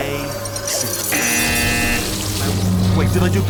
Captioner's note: BZZZZZzzT